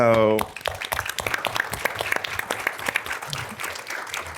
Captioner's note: audience clapping